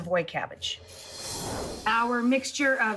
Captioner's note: whooshing